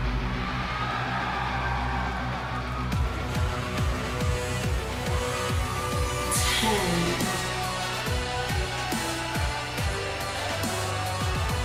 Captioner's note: crowd cheering